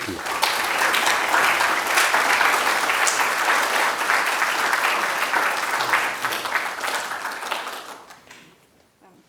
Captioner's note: applause